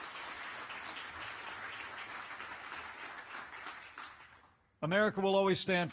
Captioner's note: applause